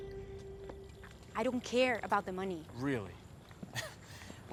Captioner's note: laughs